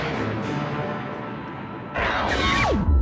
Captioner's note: lightning cracks